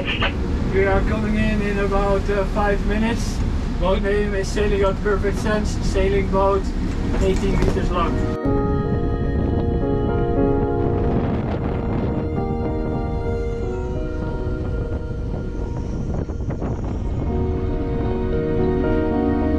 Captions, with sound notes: - We are coming in in about five minutes. Boat name is sailing yacht Perfect Sense sailing boat, 18 meters long (relaxing music) (wind blowing)